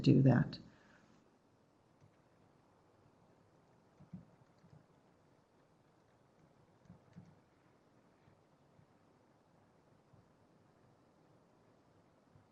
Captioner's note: no sound - waiting for questions